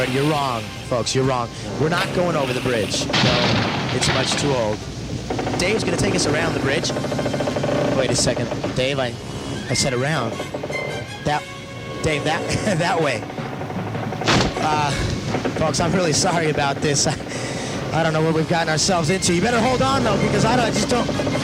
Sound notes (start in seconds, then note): 12.4 giggles; 14.3 bridge creaks